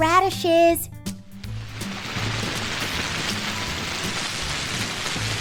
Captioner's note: rain trickling